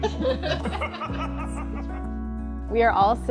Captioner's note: group laughing together